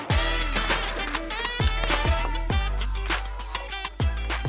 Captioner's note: uplifting music; glass clinking